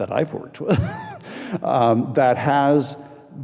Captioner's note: laughing